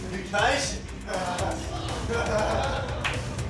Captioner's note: laughter